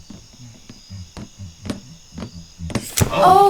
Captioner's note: Flare humming